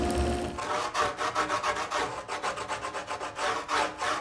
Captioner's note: tool scraping